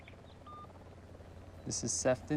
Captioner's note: beep